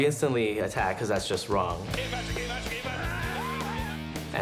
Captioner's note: yelling